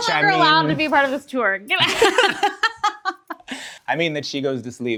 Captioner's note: both laugh